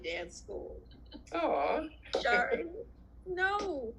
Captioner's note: laughs